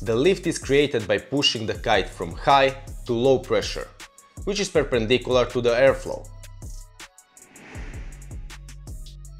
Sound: wind

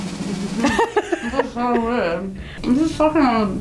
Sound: laughing

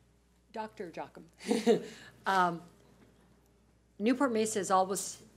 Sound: laughter

